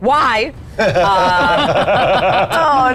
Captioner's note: ad players laughing